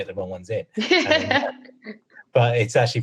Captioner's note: laughs